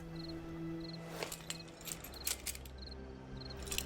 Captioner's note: metal clanking